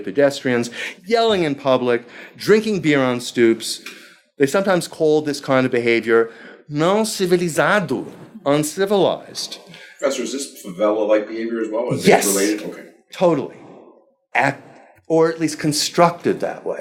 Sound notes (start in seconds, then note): 5.6 speaking foreign language